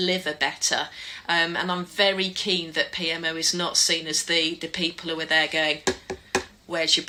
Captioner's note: knock knock knock